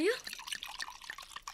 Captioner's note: SFX: pouring a drink